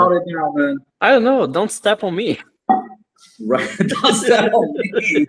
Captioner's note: laughs